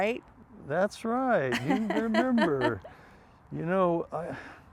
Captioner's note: Pamela laughs